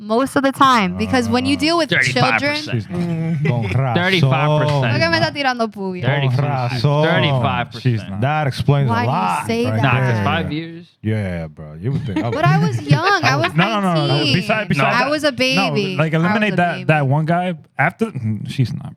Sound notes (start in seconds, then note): 4.9 speaking Spanish